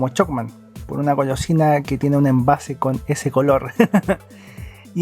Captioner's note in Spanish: risas